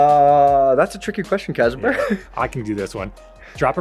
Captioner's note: laughs